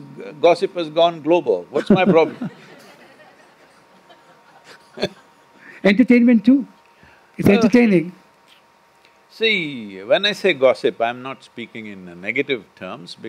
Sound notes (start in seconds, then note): 1.8 laughter